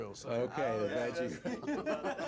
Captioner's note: laughs